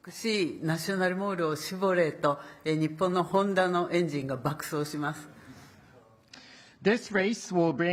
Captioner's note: speaking Japanese